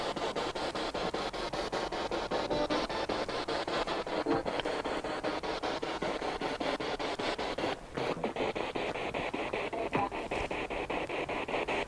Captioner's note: noise of the spiritbox in the background